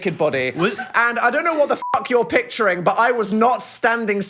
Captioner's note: beep